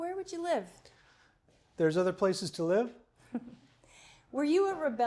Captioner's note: chuckles